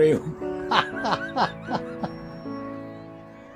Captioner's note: laughing; happy crowds; happy piano music